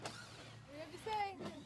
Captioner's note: drill whirring